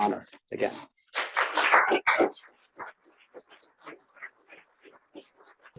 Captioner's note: audience applauds